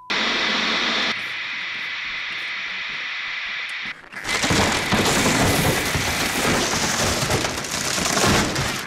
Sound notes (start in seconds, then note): 0.0 static buzz; 4.0 crashing, ripping, destroying